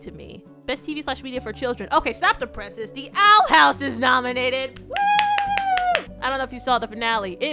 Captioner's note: applauses and cheers